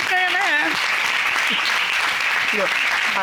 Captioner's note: applause